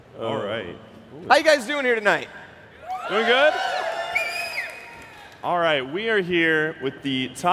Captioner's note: applause